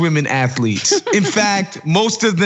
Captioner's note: laugh